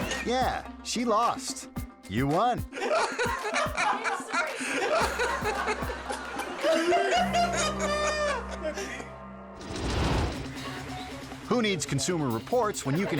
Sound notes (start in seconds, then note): 0.0 all laughing; 2.7 all laughing; 9.6 logo swooshing